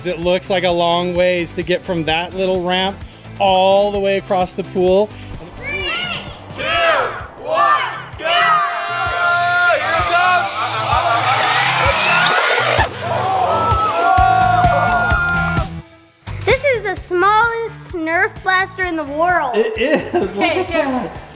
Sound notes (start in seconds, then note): 10.1 electric motor whirring; 10.9 group cheering; 12.5 group groaning; 13.6 upbeat, rhythmic music